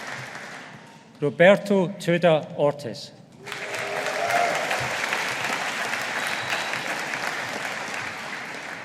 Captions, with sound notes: Roberto Tuda Ortiz. (AUDIENCE APPLAUDING)